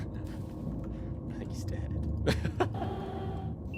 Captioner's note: laughs